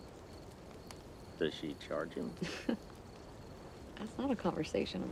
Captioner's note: Joe giggles